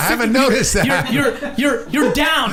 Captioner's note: laughing